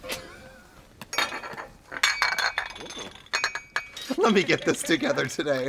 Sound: dishes clatter

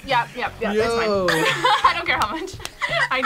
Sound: laughs

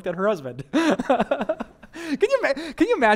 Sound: pastor: Laughter

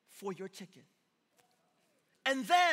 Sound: congregation murmuring

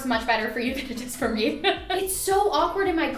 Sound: laughing

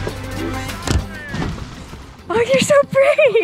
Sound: boat splashing

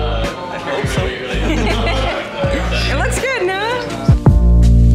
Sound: laughs

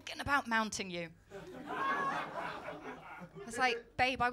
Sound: laughter

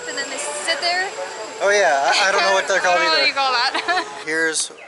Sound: laughter

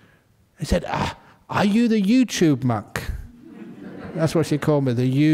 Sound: laughter

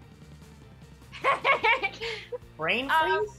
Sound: laughs

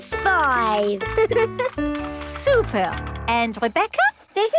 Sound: giggles

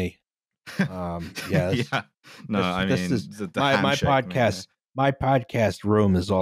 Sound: laughs

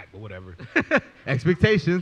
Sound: laughs

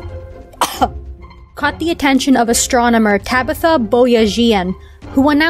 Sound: coughing

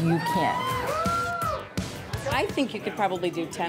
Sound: people cheering

